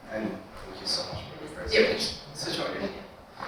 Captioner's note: attendees chattering